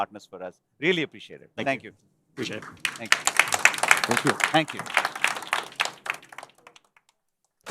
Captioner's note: applause